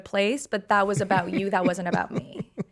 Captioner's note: Justin laughing